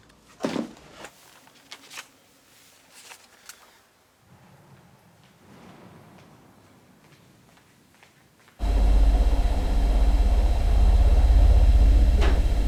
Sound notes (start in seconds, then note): 5.9 rumbling sounds in the</b> <b>distance - footsteps